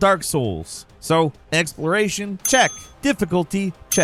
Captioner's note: bell dings